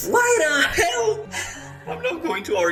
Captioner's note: sighs